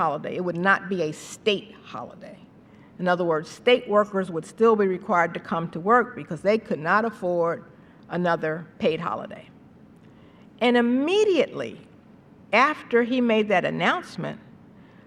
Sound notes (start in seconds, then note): none